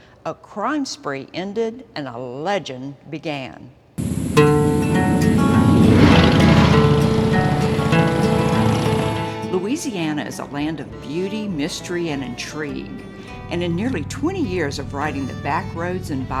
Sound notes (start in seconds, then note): 4.1 upbeat music; 6.5 engines roar